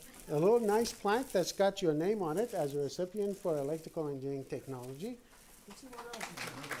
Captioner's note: applause